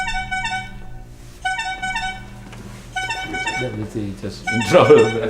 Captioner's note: phone rings